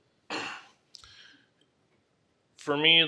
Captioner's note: clears throat